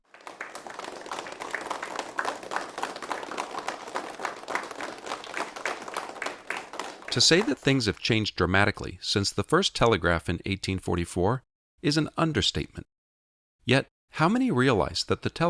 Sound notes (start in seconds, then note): 1.7 clapping; 5.9 voiceover